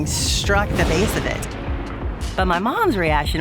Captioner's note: thunder booms